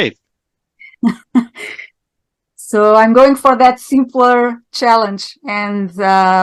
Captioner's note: laughing